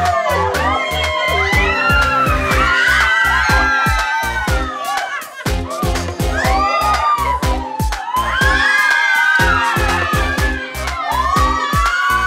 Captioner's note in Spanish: Gritos